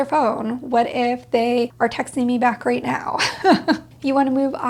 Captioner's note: laughs